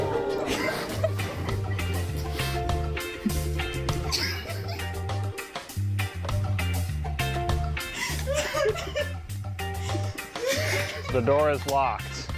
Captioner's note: audience laughter; laughs